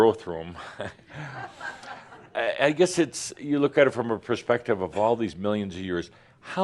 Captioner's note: a few chuckles